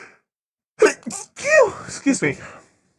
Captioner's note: a sneeze like a chihuahua